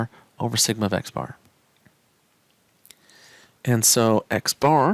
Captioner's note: no Speech Detected